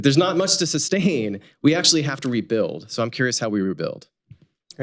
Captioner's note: laughs